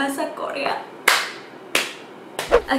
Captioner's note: clapping